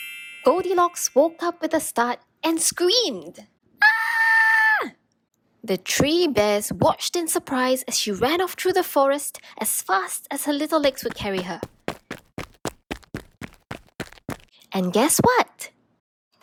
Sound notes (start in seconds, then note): 10.7 running footsteps